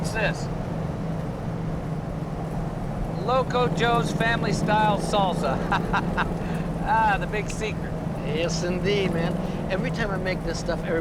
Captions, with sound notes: What's this? "Loco Joe's Family Style Salsa". (chuckles) Ah, the big secret. Yes, indeed, man. Every time I make this stuff,